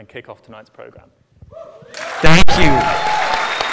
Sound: applause

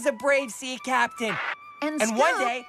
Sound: walkie-Talkie Crackles

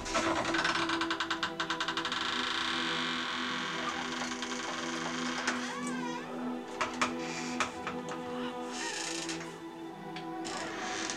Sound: the basement door creaks loudly

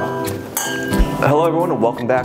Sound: glasses clinking

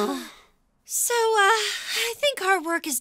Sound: sighs

